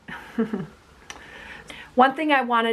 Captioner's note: chuckles